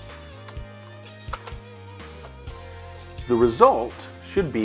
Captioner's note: IBM Model M clicky keyboard typing